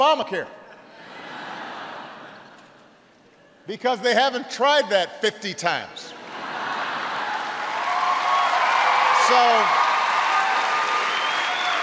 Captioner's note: laughter